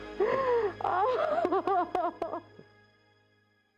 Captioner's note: crying